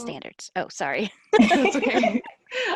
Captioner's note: laughing